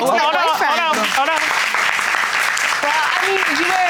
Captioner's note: audience applauds